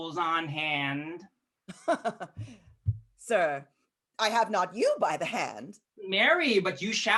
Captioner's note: laughs